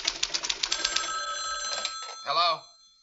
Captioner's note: phone ringing